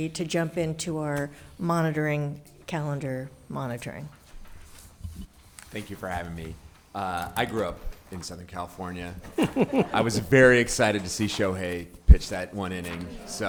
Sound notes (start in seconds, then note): 9.2 all laughing